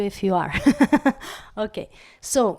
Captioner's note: laugh